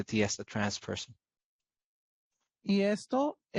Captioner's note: speaking Spanish